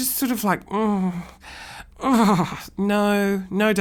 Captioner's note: makes uncomfortable noise